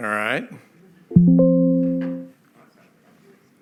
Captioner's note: bling